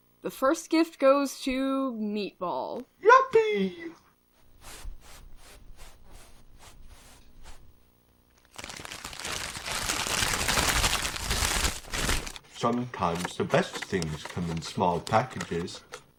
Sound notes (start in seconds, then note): 4.4 Meatball shuffles on carpet